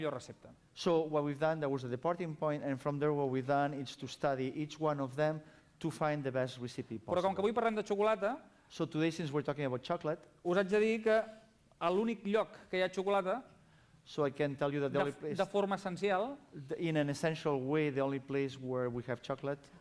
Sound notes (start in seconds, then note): 7.7 non-english speech; 12.3 non-english speech; 16.0 non-english speech